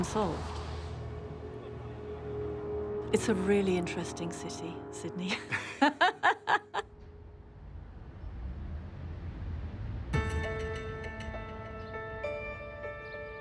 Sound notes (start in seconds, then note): 5.3 laughs; 10.2 suspenseful music